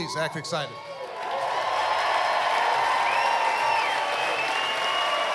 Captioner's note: cheering, applause